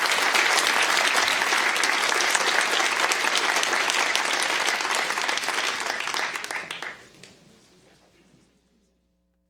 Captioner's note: applause